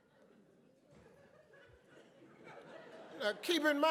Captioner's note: audience laughs